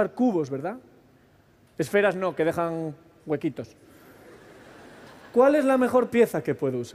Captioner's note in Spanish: Risas